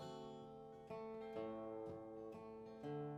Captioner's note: none